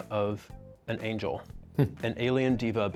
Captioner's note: chuckles